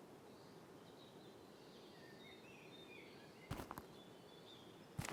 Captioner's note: birds chirping